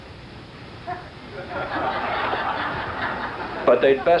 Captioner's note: audience laughs